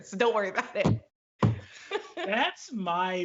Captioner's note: both laugh